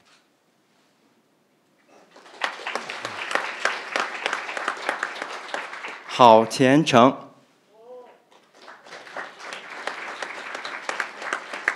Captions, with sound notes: (crowd applauding) Hao Qiancheng (crowd applauding)